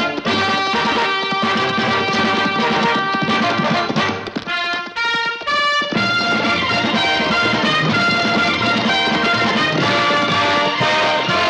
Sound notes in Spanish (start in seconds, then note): none